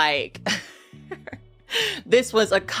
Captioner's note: person laughing